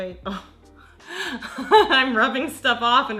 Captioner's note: laughs